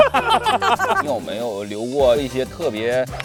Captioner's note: laughs